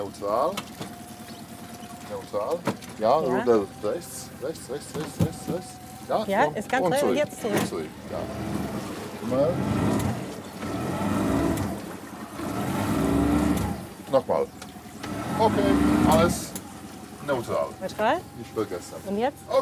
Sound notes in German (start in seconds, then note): 11.1 Der Motor heult auf